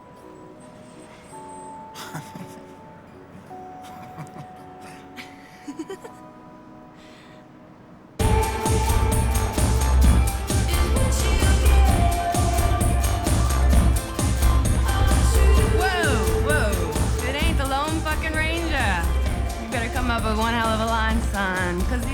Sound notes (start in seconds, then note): 1.9 laughs; 3.8 giggles; 8.1 dance music playing